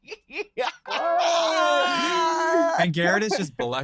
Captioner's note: all laugh